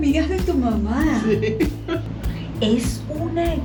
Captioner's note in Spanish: laugh